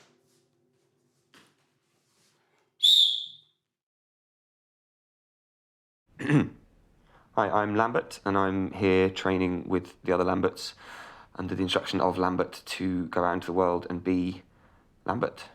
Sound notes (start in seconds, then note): 2.8 whistle